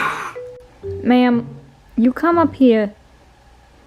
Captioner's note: in a bad new york accent